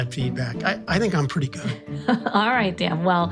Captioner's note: laughs